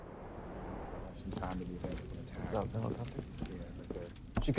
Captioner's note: men chattering